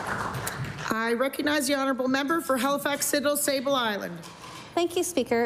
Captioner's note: applause